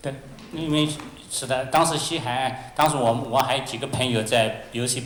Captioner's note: Mandarin